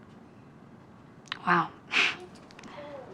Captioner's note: chuckles